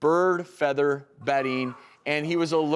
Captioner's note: audience bird-calling